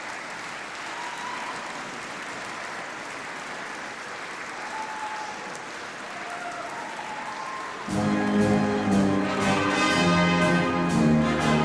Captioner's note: applause